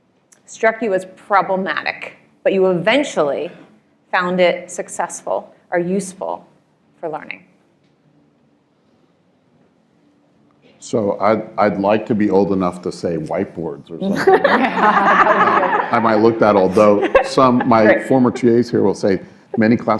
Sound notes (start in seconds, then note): 14.1 laughter